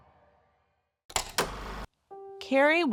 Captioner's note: film reel clacking